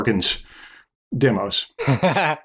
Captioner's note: laughter